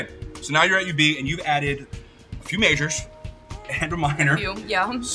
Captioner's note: chuckling